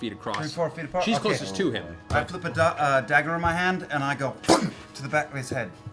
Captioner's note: impact noise